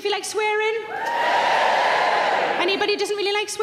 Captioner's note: audience cheering